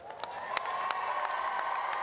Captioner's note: applause